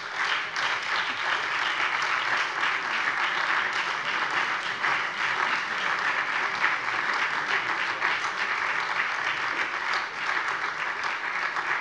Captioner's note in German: Beifall SPD